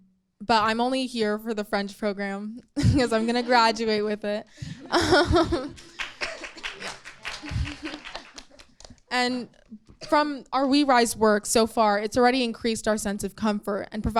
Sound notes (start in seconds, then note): 5.7 light applauding